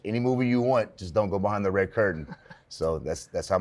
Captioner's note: laughs